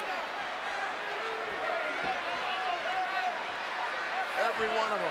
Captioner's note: crowd clamors